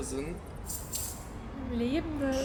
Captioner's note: Krrsch